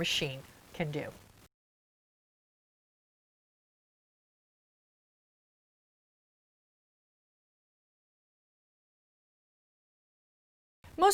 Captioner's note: no Sound Present